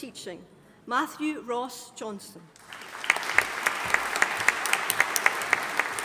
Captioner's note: audience applauding